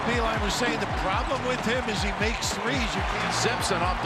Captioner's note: crowd cheers